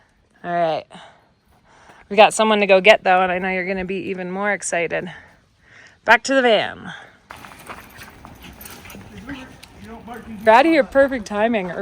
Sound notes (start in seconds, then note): none